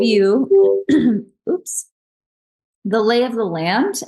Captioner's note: computer beeps